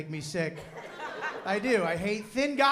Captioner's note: laughter